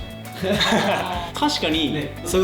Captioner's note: laughs